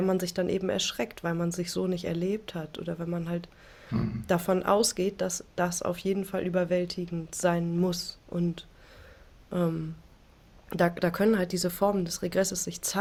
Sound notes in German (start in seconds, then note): 3.9 räuspern